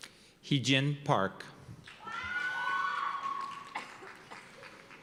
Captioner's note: cheers and applause